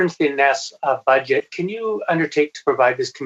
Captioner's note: speaking French